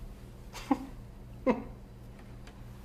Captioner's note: laughs